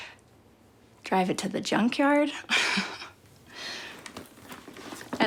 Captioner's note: chuckles